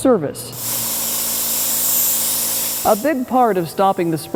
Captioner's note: disinfectant spraying